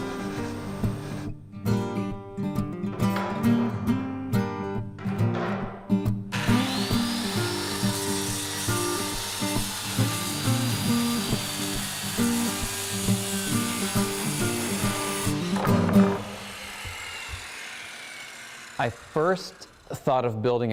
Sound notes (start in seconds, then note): 6.3 circular saw